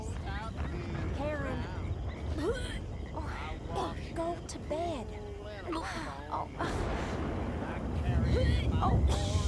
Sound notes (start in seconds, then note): 2.5 Karen vomits nearby